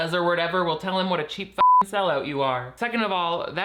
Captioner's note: beeps